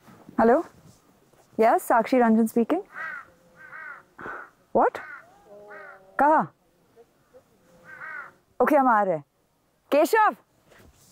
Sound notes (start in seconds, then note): 2.8 Crows cawing; 7.6 Crows cawing